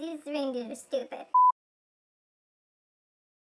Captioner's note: beep